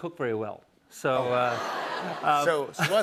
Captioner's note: laughter